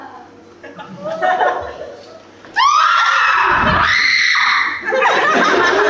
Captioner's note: all scream